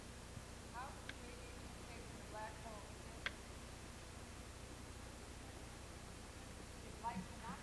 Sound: speaking faintly

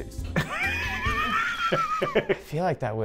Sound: man laughs

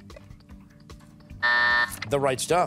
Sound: timer

